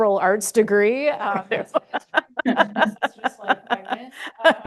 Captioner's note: laughter